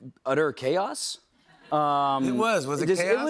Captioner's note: laughter